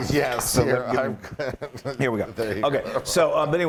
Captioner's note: laugh